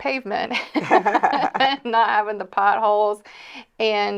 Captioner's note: both laughing